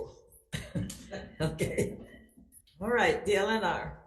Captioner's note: chuckles